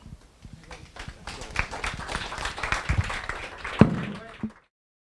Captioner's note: audience applause